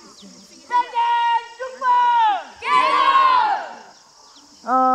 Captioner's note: children shouting